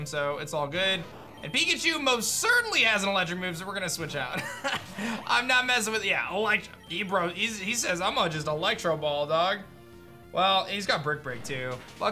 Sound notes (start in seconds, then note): 4.3 chuckles